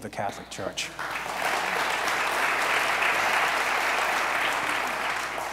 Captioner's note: audience applauds